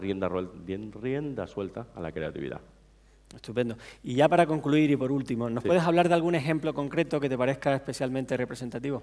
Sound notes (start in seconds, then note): 5.1 speaking spanish